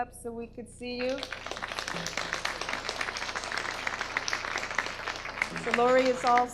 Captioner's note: audience applause